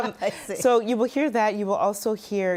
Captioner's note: laughs